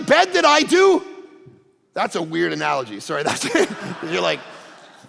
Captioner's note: congregation laughing